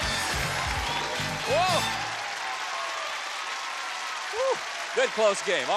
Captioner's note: theme music playing; applause